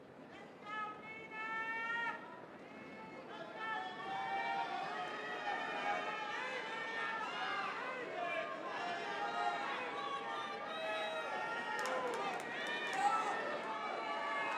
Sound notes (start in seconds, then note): 9.4 yelling